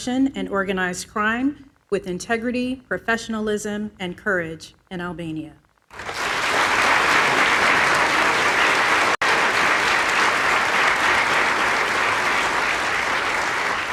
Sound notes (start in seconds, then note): 10.3 applause